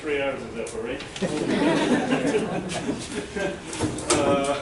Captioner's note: laughter